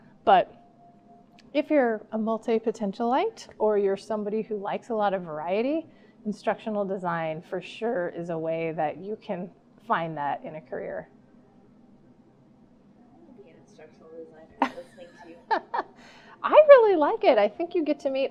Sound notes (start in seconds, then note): 14.6 laughing